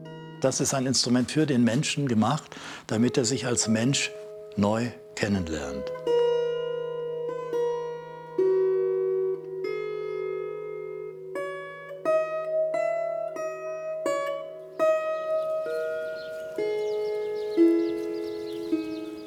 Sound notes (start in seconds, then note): 16.3 birds chirping